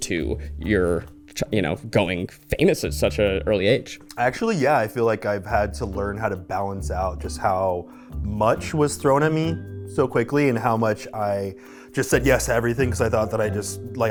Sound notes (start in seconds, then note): none